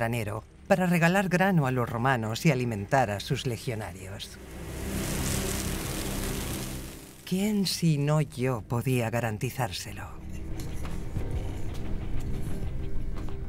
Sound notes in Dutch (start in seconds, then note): 4.4 korrels kletteren